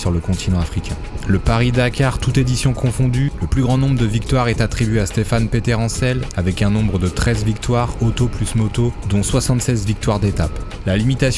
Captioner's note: car + bikes